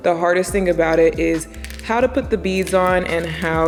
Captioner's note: plastics clatter